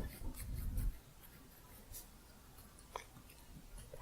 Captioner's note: faint scissors sounds